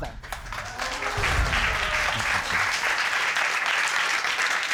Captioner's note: audience applauding